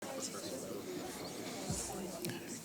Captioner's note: background chatter